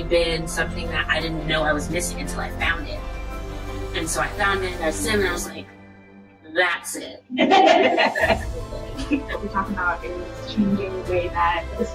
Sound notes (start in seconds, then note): 7.3 laughter